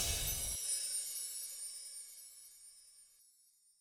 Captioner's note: chimes ring